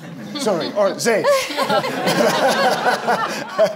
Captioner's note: laughs